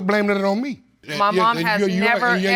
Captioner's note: stammering